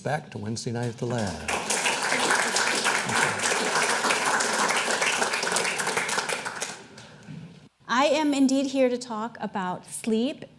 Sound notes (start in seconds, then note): 1.0 audience applauding